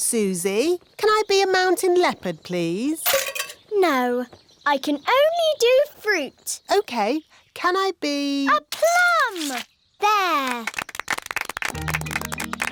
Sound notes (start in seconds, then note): 10.2 applause